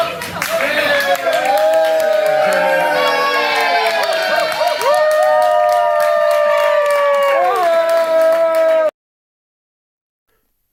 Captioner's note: applause